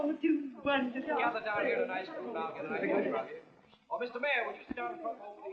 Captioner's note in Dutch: geklets